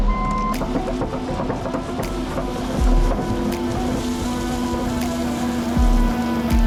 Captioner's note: upbeat music; vehicle beeping; machinery rattling; upbeat music; vehicle whirring